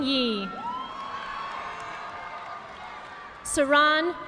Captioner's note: audience applauding